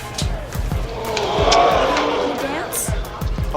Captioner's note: audience gasps